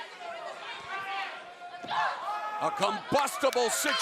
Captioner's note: crowd chatter